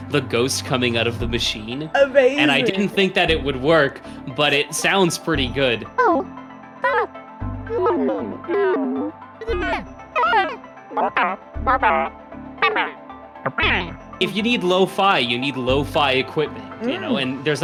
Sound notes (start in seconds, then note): 5.9 adaptory music playing; 5.9 happy sounds; 7.4 adaptory music playing; 7.7 sad sounds; 9.4 adaptory music playing; 9.4 scared sounds; 10.8 adaptory music playing; 12.5 angry sounds